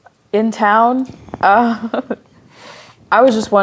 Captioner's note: chuckling